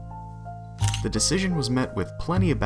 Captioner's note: camera shutter